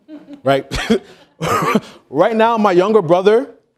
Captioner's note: laughing